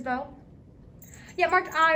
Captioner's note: Puck jingles